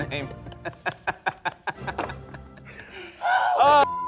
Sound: men laughing

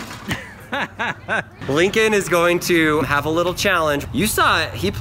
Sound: laughs

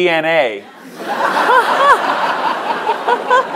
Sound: laughter

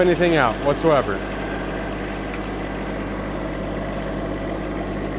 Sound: engine running

